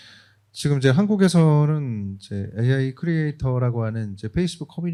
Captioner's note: speaking korean